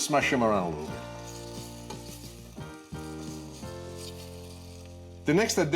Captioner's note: blueberries sizzling